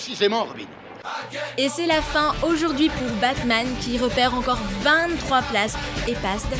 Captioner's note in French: Voix-Off